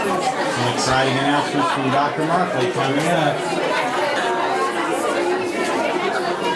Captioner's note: crowd chattering drowns speaker